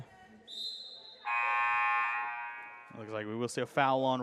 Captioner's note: whistle blows; buzzer